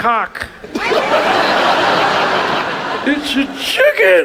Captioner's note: audience laughs